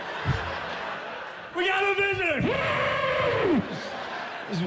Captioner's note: mimics elephant trumpeting